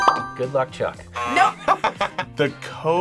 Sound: buzzer; buzzer rings; laughs

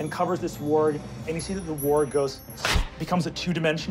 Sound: smack

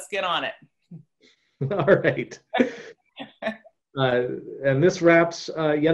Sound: laughs

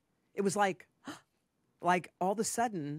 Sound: gasps

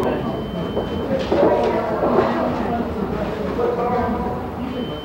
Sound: people chattering

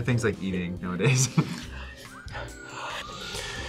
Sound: both sniffing; sighs

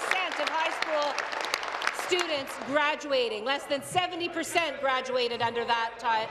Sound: applause

